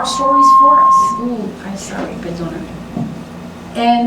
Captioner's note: microphone feedback; spanish